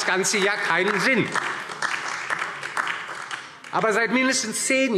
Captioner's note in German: Beifall DIE LINKE und vereinzelt SPD